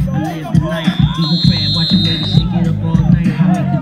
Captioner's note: whistle blowing